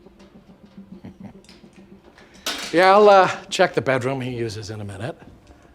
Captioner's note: chuckles